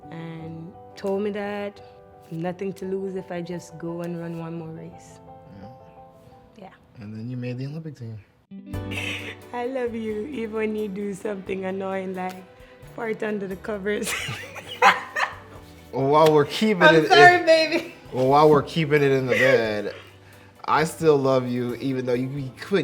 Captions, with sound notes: and told me that nothing to lose if I just go and run one more race. - Yeah, - Yeah. - And then you made the Olympic team. - I love you even when you do something annoying, like fart under the covers. (both laugh) - While we're keeping it, - I'm sorry Baby. - well, while we're keeping it in the bed, I still love you even though you be